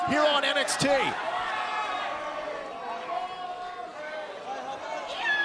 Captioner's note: crowd cheering